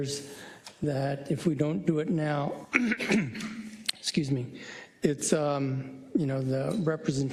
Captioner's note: cough